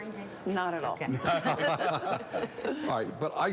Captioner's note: laughs